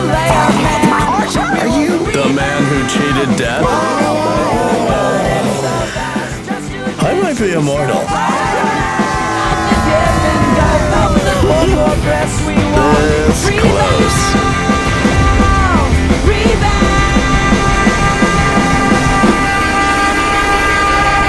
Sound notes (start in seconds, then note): 0.3 gurgling; 4.8 all gasp; 10.3 laughs